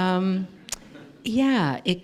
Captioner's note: laughter